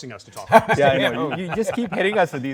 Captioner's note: everyone laughing